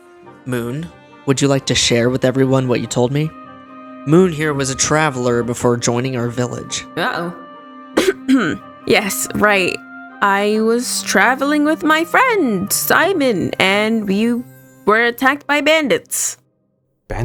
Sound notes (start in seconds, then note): 8.0 cough